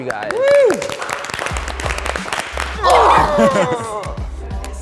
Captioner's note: everyone clapping